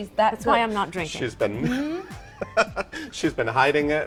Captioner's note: laughs